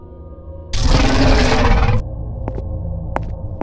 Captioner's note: snarling